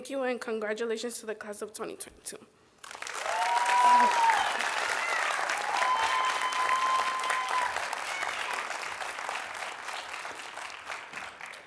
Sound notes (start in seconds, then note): 2.8 cheering, Applause